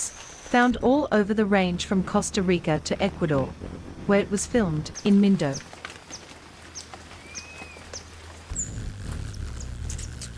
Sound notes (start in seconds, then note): 4.9 birds chirping; 4.9 rainfall; 8.9 bird's wing flapping; 8.9 birds chirping